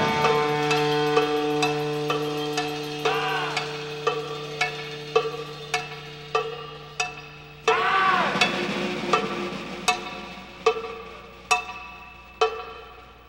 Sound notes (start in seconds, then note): 0.0 upbeat instrumental music; 4.0 cow bell clanging